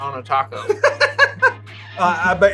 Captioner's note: laughs